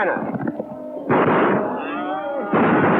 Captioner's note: gunshots